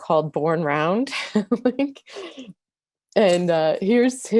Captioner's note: laughs